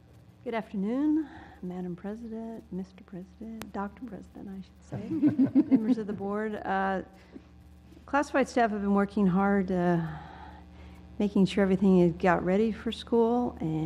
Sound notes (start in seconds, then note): 5.0 laugh